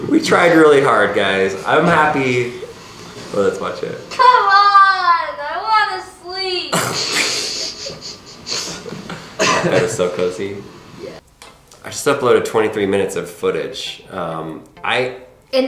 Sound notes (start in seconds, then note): 6.7 laughs